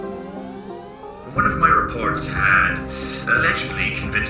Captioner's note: inhale